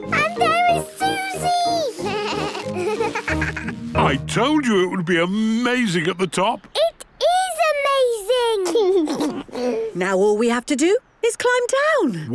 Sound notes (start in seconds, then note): 1.9 bleating, laughing; 8.6 George giggles